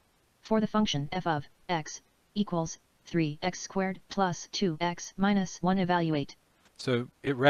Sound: synthesized speech

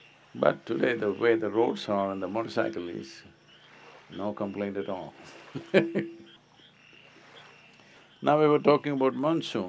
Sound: laughs

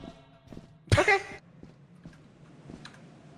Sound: laughs

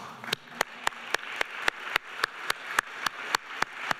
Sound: clapping

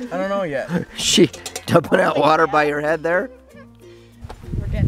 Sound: laughing

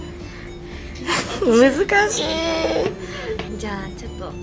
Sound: laughs

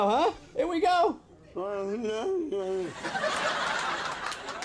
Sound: Andy mumbling; audience laughing

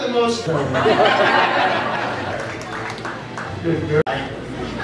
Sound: audience laughs

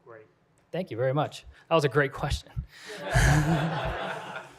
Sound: laughter

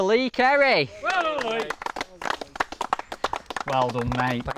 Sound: applause

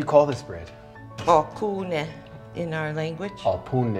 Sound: speaking foreign language; Baratunde speaking foreign language

